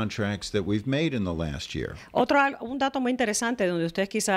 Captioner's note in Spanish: Hablando ingl\s